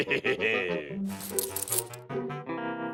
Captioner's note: laughs; keys jingle